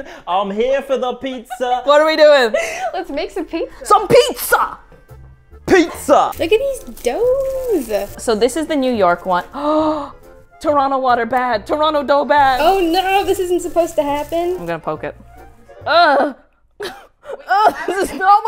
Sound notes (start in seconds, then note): 9.5 gasps